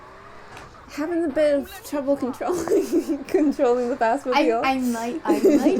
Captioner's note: laughter